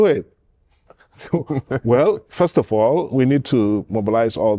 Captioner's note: laughter